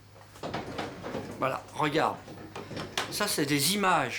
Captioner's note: speaking French